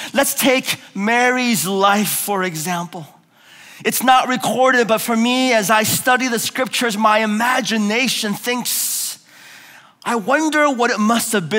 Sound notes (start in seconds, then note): none